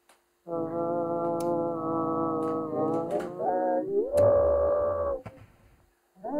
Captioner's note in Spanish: tarareo distorsionado